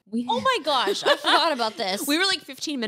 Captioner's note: laughs